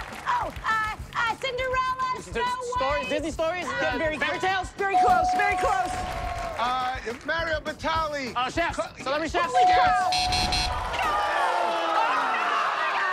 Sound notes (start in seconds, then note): 5.0 bell dings; 9.6 buzzer sounds